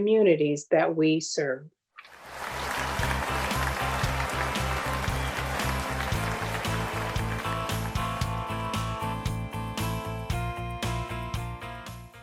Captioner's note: applause